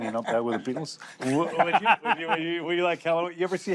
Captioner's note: laughs